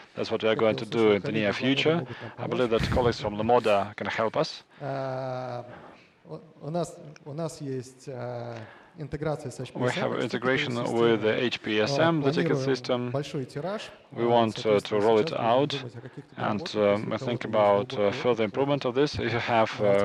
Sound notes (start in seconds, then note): 6.4 speaking russian